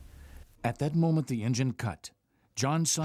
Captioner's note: voiceover